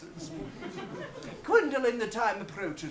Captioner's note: audience laughs